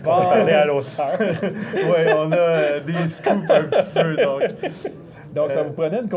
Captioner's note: laughs